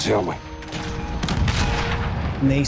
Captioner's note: explosions